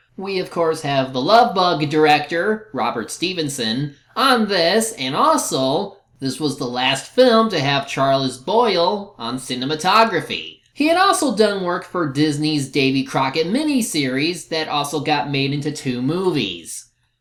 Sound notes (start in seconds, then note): none